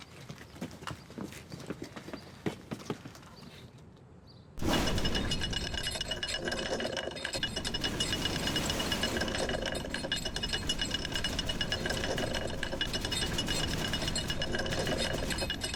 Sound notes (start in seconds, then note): 4.9 garage door creaking